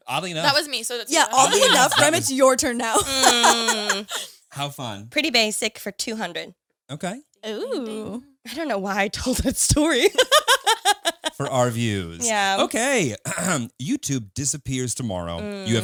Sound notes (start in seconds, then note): 10.0 laughs; 13.2 clears throat